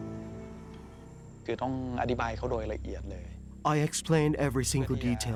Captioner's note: speaking Thai